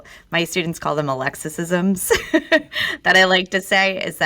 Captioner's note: laughs